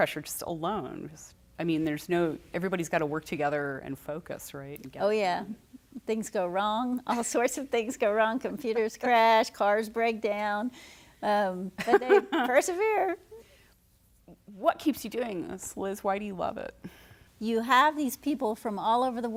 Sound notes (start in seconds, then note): 11.8 laughter